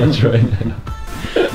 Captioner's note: laughing